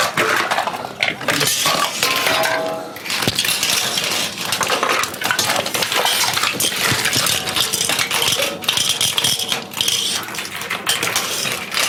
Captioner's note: sound of metal cable wires being loaded into the machine